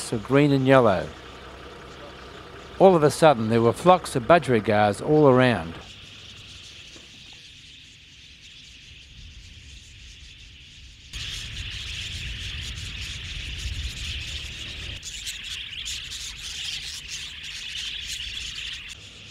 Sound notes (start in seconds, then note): 5.9 bird sounds